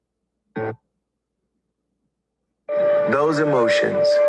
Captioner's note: electronic buzzing